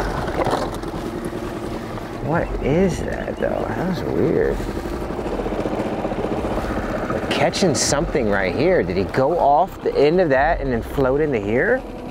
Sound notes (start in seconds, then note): 5.0 engine droning; 5.0 ominous music continues